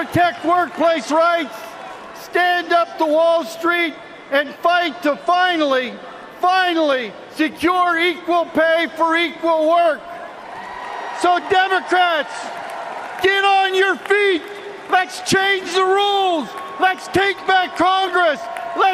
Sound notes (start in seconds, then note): 0.0 cheers and applause